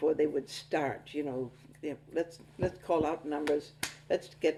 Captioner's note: claps